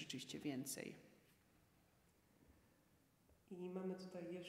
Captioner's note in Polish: cisza